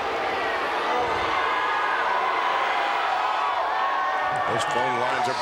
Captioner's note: crowd cheering